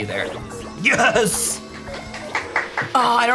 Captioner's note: clapping